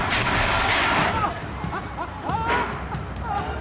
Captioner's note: laughing